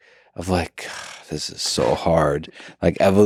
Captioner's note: sighs